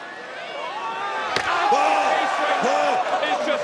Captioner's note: yelling